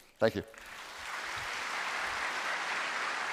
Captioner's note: applause